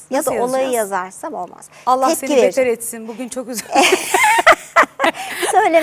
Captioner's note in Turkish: kahkaha